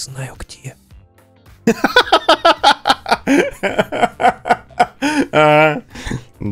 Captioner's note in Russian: Смех